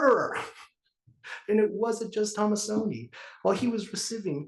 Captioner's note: laugh